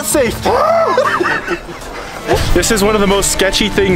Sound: groans

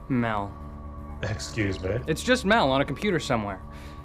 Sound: voiceover

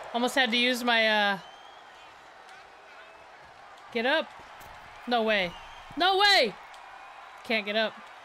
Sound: applause

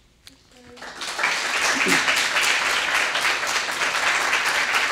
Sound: audience applauding

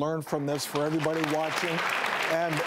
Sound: audience applauds

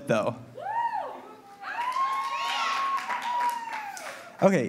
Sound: audience cheers

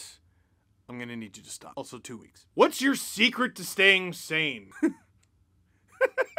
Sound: laughter

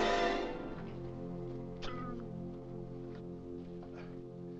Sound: gasps; ominous music

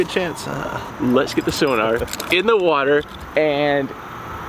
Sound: keys jangling

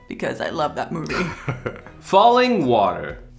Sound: chuckles

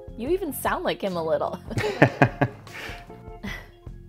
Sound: both laugh

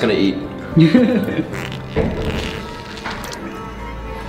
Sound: pooping sound

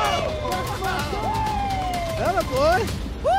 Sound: crowd cheering; screams; murmurs

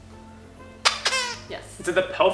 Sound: squeaks

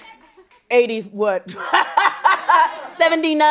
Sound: laughing

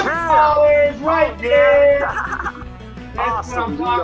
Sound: laughing

